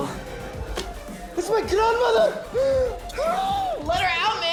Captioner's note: gasps